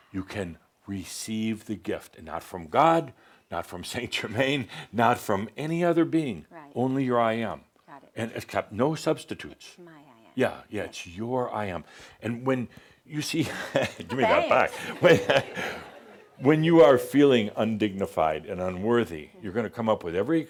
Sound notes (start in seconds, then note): 16.0 chuckles